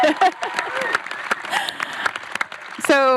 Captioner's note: chuckles; audience applauds